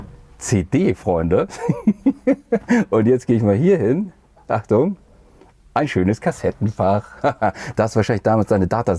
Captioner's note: giggling